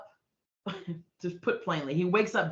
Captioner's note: chuckling